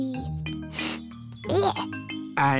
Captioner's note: sniffs